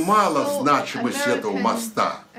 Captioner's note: foreign language